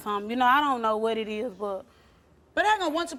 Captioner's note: none